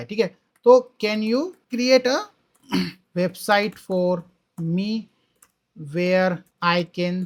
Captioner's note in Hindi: गला साफ़ करने की आवाज़